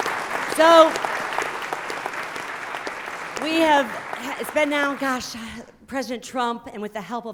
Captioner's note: applause